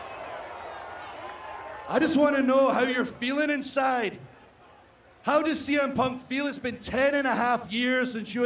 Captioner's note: cheering